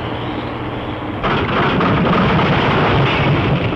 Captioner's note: crash